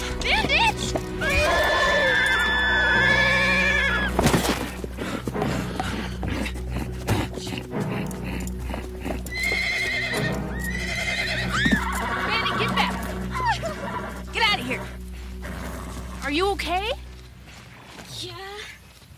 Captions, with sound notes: Bandit. (Julie screaming as she falls to the ground) (Bandit neighing) - Bandit, get that. Get out of here. Are you okay? - Yeah.